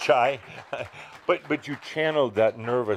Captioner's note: some applause; Adamus chuckles